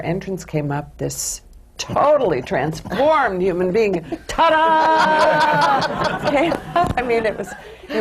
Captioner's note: laughter